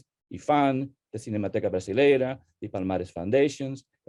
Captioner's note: speaking Spanish